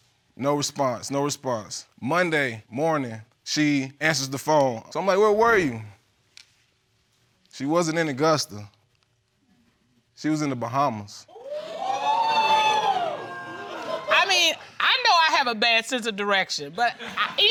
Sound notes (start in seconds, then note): 11.4 audience exclaiming